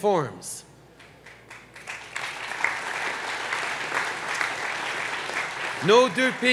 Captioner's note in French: Applaudissements